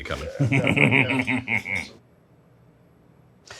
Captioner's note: evil chuckle